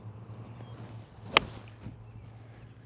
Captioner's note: ball thuds